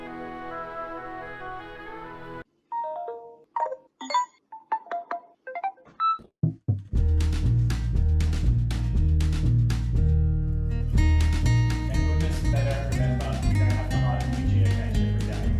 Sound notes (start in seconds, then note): 4.0 digital alarm sounds